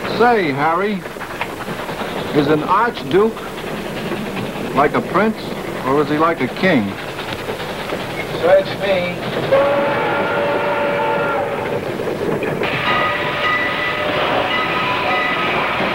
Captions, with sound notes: - Say, Harry, is an archduke like a prince or is he like a king? - Search me. (train whistle blows) (bell clanging)